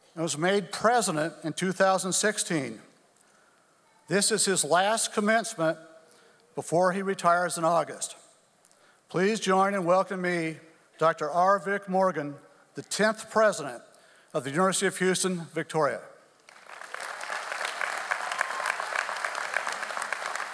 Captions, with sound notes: and was made president in 2016. This is his last commencement before he retires in August. Please join and welcome me, Dr. R. Vic Morgan, the tenth president of the University of Houston-Victoria. (audience applauds)